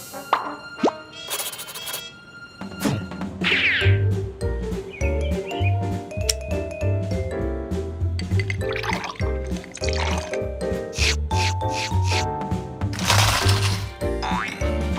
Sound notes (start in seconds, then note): none